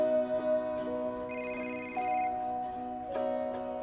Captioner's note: ringing